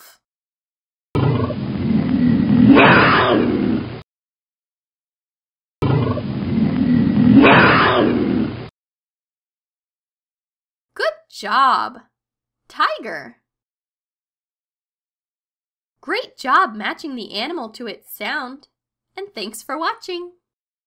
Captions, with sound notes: (tiger roaring) Good job, tiger. Great job matching the animal to its sound, and thanks for watching.